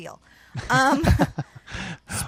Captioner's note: laughs